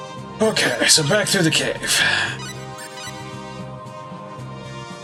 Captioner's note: sighing